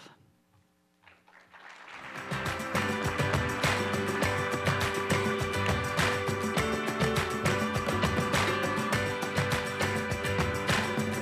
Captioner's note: applause